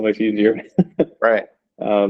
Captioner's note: chuckles